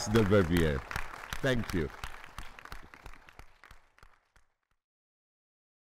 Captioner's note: all applauding